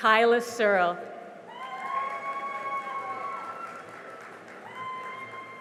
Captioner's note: cheering and applause